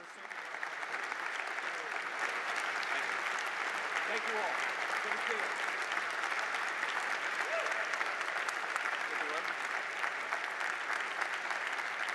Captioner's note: applause